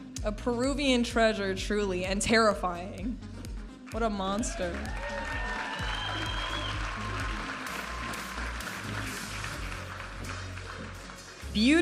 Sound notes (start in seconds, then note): 4.4 audience applauding and cheering; 8.4 upbeat music